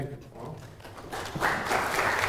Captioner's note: audience applause